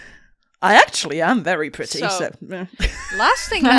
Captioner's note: laughter